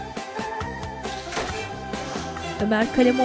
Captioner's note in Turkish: Kapı kapanma sesi